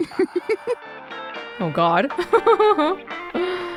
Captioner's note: chuckles